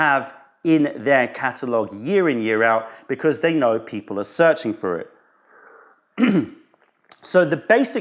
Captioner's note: sips tea